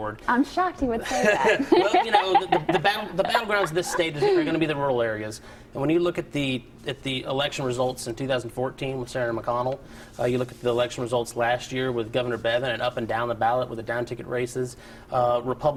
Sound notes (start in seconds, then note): 5.5 laughter